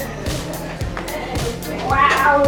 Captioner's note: laughing